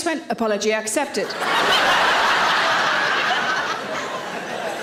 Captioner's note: audience laughing